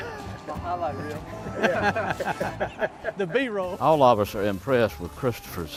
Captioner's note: laughing